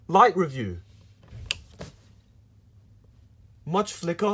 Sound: click

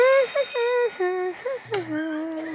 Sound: humming

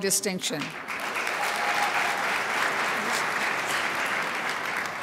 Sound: crowd applauds

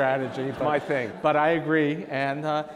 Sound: audience laughs

